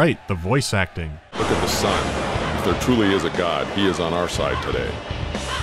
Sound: dispassionate delivery

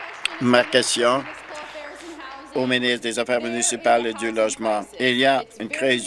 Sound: applause

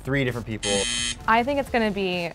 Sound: buzzes

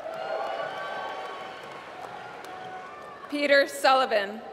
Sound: applause

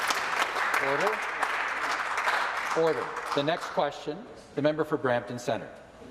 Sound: some Applause

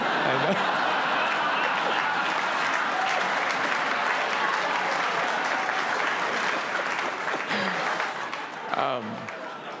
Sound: laughter

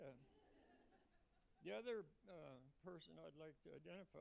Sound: laughter

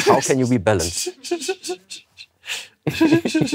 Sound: snickers

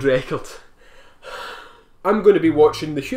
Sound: sigh in despair

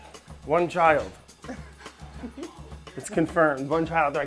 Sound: laughs

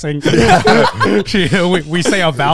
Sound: all laughing

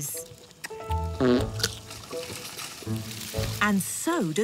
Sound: farting

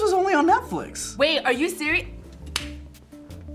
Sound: claps

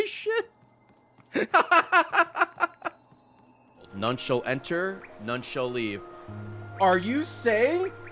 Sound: laughs

